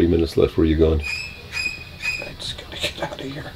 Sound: horror sound effect

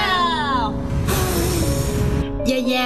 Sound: blowing sound

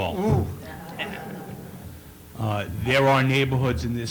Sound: laughter

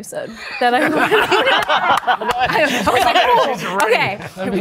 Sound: group laughing

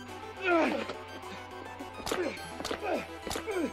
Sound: exclaiming; grunting

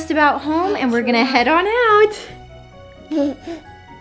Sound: Blake babbling; Blake giggles; uptempo festive music

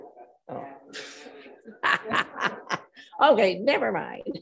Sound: member laughing

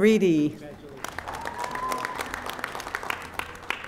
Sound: audience applauding

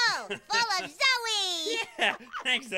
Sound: laughs

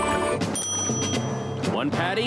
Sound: bell ringing

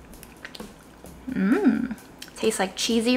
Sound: licking

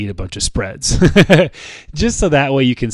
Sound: chuckles

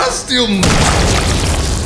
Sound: boom

